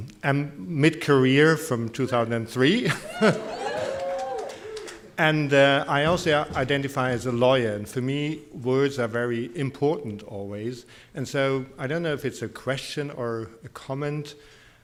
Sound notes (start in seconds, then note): 2.0 audience cheering; 2.8 laughs